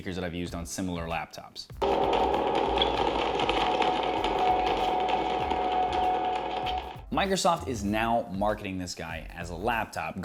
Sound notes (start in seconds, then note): 1.7 movie plays on speaker